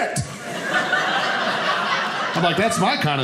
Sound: audience laughing

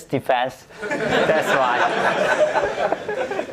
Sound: audience laughs

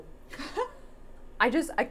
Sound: laughing

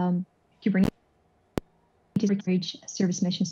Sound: audio cuts out

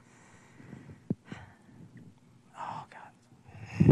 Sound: sighing

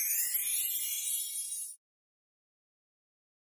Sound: light chiming

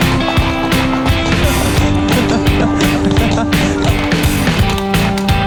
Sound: hoofs rumble; hot music; is laughing off-screen

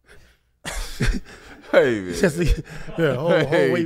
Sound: laughs

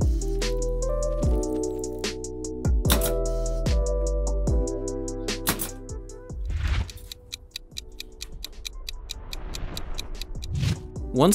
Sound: clock ticking sounds

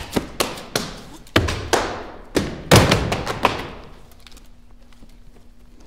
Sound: book falling

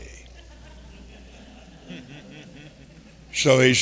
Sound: congregation laughing

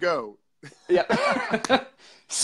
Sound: laughter

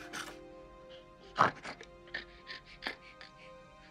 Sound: snorts

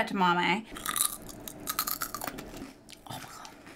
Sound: crunching

